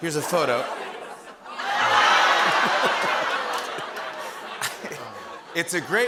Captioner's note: laughter